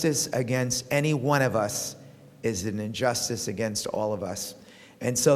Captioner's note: none